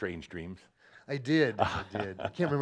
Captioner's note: chuckles